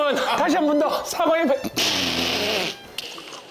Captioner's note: Lee Youngja impersonation bursting out